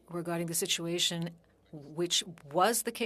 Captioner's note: speaking French